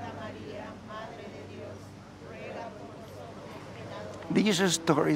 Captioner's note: praying quietly in unison